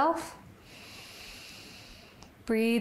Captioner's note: inhales